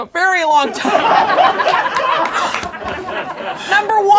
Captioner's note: laughing